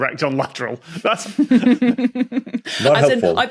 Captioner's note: snickers